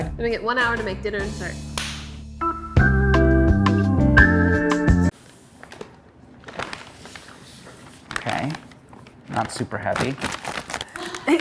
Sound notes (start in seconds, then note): 2.1 easygoing music; 6.3 bag crinkles